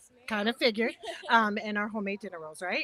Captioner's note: chuckles